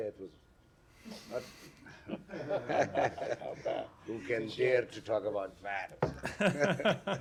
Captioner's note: laughter